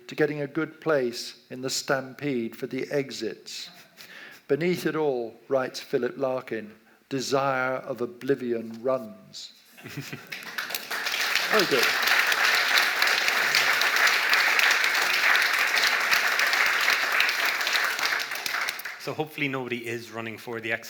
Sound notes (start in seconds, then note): 9.4 audience laughs and claps